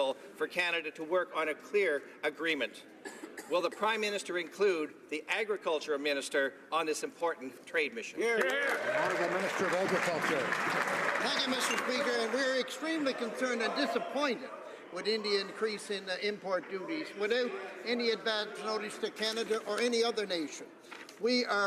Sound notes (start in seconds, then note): 11.2 some Applause